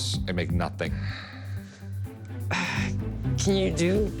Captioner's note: sighs